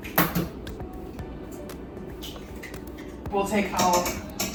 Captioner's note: eggs cracking